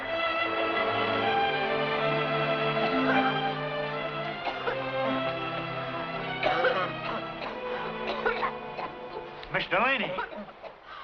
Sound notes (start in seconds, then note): 3.0 coughing and spluttering